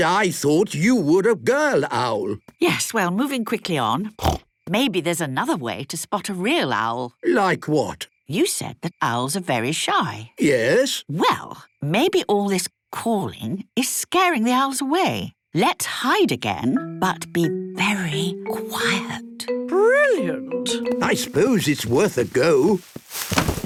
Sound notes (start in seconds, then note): 4.2 snorting; 17.3 whispering